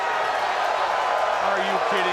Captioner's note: crowd cheering